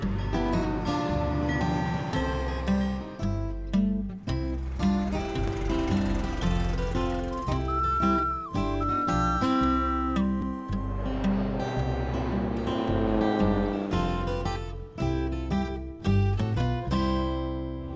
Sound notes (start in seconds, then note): 0.2 train clacking; 4.8 engine rumbling; 7.8 whistling; 11.1 airplane motor humming